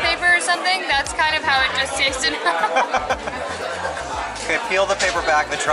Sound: laughter

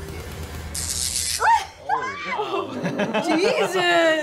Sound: electricity crackles; laughs

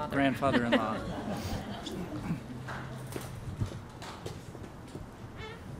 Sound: laughs

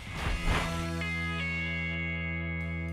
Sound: whoosh; rock music

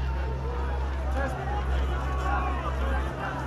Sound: shouting of a crowd

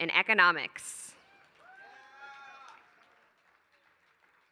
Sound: applause

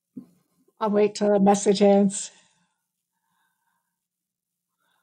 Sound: faintly speaking

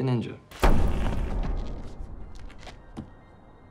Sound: booms

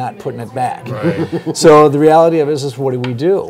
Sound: laughs

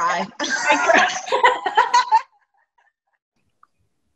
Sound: both laugh

